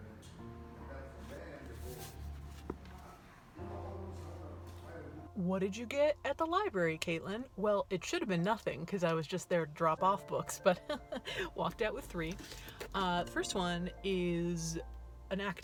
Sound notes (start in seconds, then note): 10.6 chuckles